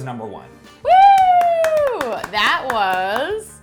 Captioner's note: cheering and clapping